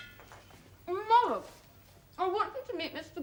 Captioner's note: SOREL, her mouth full